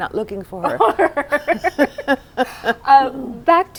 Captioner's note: laughter